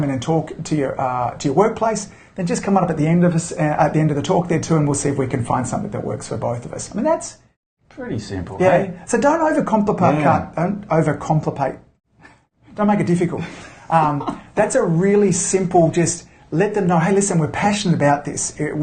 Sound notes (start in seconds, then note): 13.4 laughs